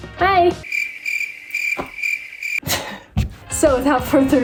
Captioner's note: crickets chirping